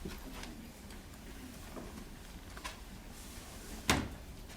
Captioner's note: shuffling